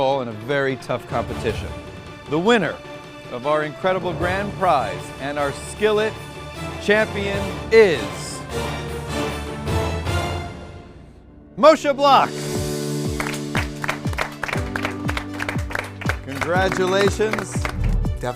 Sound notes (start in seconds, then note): 7.9 intense orchestral music; 13.1 clapping